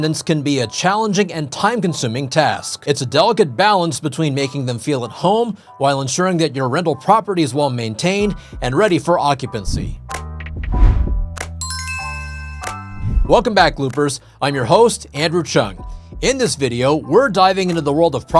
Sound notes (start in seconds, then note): 10.6 logo whooshing; 11.6 logo tinkling